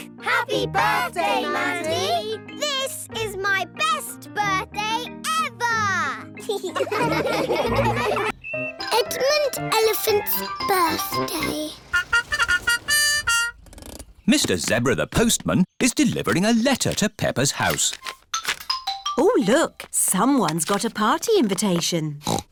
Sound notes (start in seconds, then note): 6.4 laughing; 11.9 horn tooting